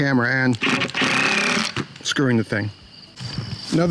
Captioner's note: grinding drill whine